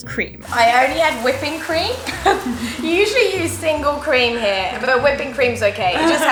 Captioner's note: laughter